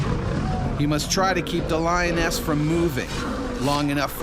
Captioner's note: voiceover